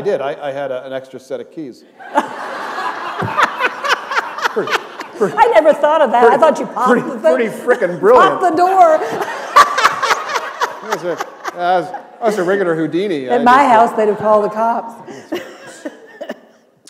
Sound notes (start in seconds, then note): 4.0 laughter; 9.0 laughter